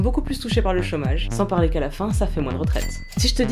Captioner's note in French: bruit de machine à sous